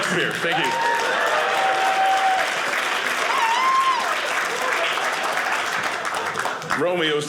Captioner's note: audience cheering